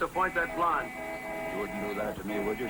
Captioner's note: honking